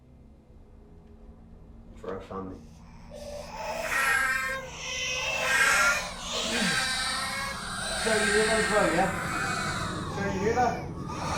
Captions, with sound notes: For our family. [Babies cries, closer, louder] Sarah, you hear that as well yeah? Sarah, you hear that?